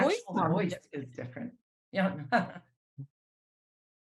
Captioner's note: laughs